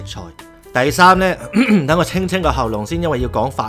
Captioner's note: ahem